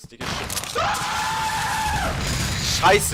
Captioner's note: floor breaks; loud screaming